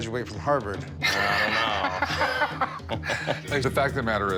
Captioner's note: laughs